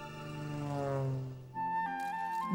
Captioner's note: engine roars; soft flute music